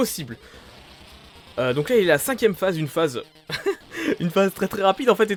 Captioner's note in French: rigole